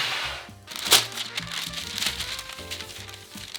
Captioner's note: pan sliding; paper rustling